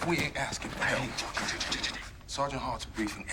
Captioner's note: stammers